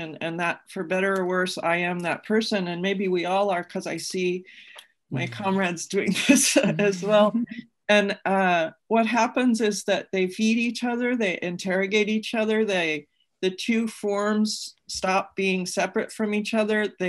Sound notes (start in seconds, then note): 6.5 panelists laughing